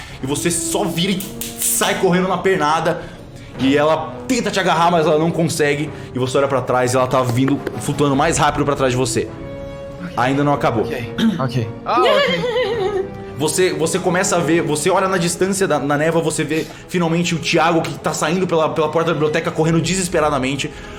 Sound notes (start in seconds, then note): 11.9 laugh